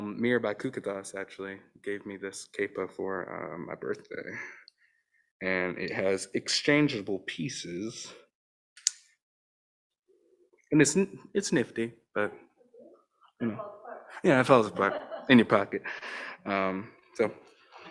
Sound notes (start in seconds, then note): 8.8 object snaps